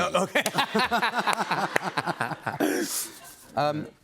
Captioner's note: laughter